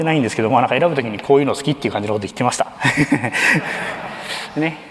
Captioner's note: laughter